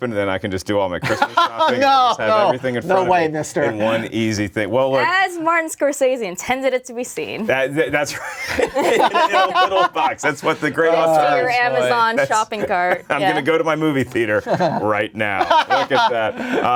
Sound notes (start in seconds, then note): 1.0 laughing; 8.0 laughs; 9.2 all talking and laughing